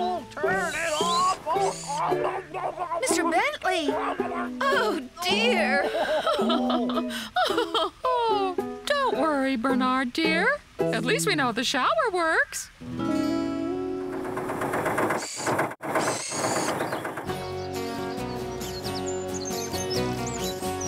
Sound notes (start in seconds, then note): 6.9 laughing; 13.9 engine Running